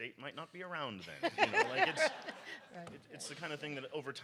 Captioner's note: audience laughs